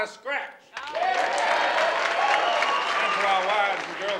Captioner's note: audience applauding